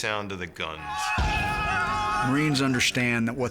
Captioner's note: marines shouting